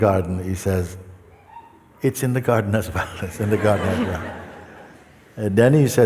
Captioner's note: laughter